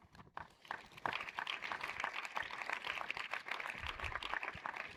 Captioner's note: audience applauds